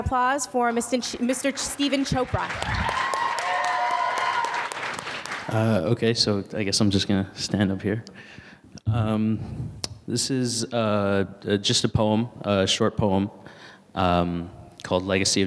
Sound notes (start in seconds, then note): 3.2 audience applauds and cheers